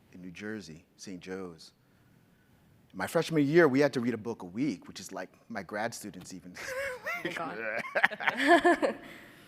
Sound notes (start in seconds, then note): 6.7 laughs